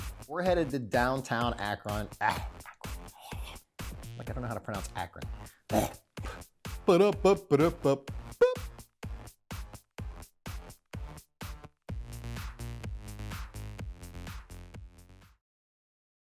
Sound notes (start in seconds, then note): 2.2 swirls tongue; 6.8 mumbles a tune; 9.4 upbeat music